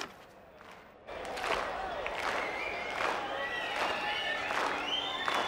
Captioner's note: clapping rhythmically